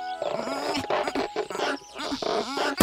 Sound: bird noises

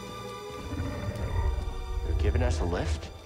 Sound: low-pitched purr

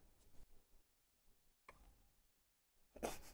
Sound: silence

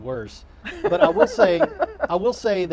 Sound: laughing

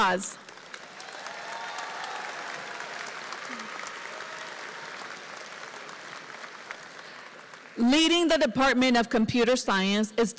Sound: applause

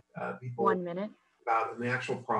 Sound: computer Timer

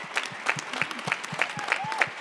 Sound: applause

